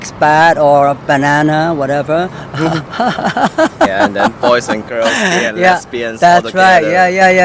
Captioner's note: laughs